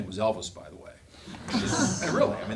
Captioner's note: laughing